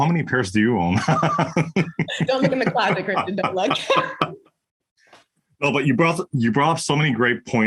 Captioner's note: laugh